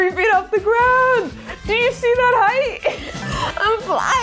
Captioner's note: laughs